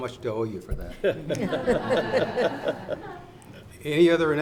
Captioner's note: audience laughs; laughs